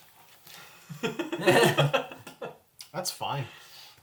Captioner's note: all laugh